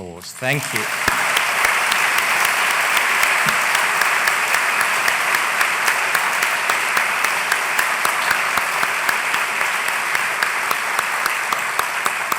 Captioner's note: applause